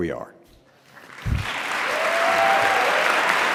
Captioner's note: applause